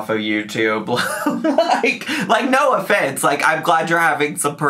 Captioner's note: laughs